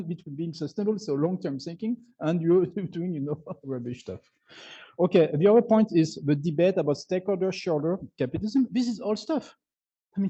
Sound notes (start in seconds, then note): 3.2 chuckles